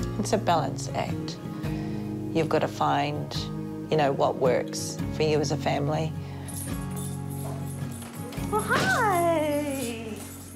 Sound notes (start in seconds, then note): 6.4 dog tags jingles